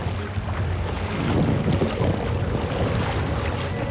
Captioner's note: water splashing